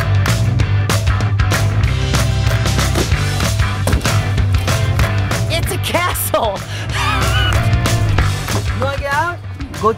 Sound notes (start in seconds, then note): 6.0 laughs